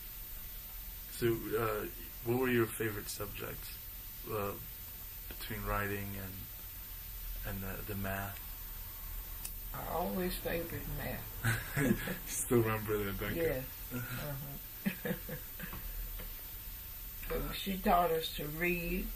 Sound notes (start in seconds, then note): 14.7 both laughing